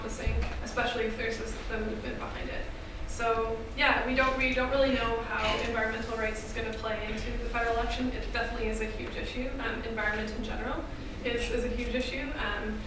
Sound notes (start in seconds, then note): none